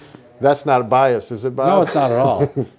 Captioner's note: laughing